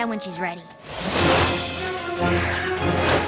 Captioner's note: whoosh